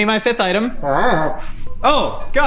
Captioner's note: Glorbglerp humming